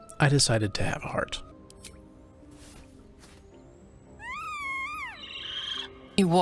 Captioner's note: squeals